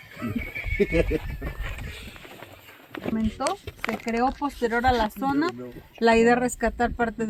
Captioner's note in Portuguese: risadas